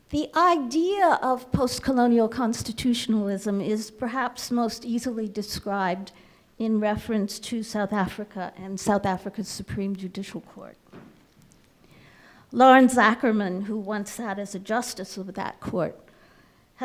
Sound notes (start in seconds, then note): none